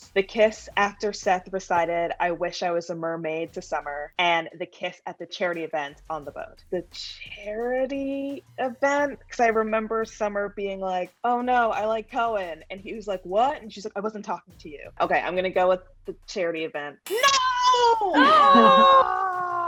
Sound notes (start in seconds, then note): 17.6 buzzer buzzes